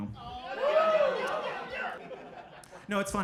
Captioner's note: audience cheering